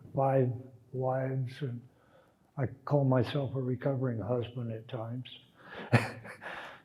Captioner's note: laughs